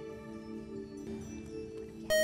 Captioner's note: buzzer